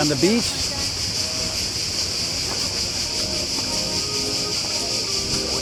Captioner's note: "Singing" Cicadas